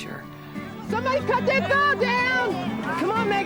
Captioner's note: shouts